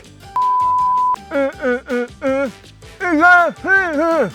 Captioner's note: mumbles